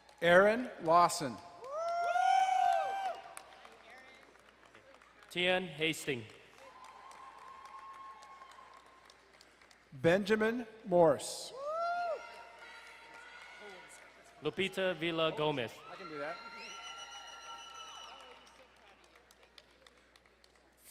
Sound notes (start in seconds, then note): 1.2 crowd cheering and applauding; 6.6 distant cheering; 16.0 crowd cheering and applauding